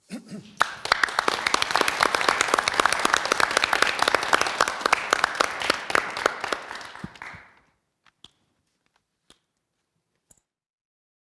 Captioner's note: applause